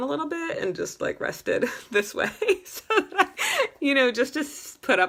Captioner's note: laughs